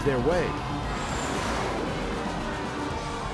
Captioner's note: audience cheers; upbeat music